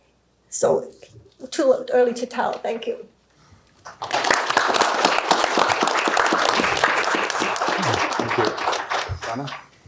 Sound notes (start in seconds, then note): 3.8 applause